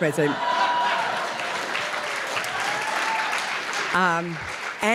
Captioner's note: applause / laughter